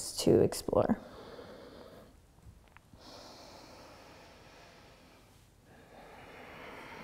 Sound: breathing

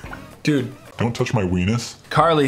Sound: in dark, deep voice

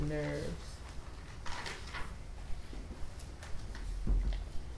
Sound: pages flipping

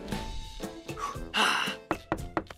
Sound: deep breath

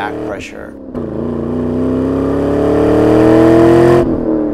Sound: engine revving

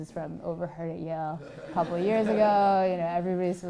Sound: laugh

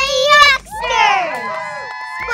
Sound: cheering

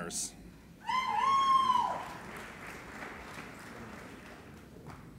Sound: applauding and cheering

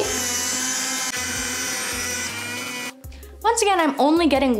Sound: machine whirs

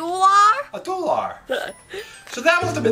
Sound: assistant chuckles

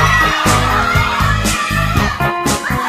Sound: clamoring continues

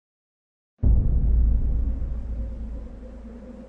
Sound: winds blowing through town

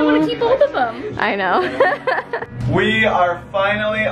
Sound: laughs

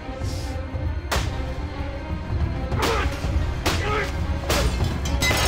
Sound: grunting and hitting impacts

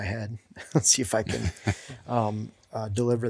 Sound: men laughing

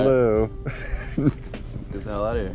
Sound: laughs softly

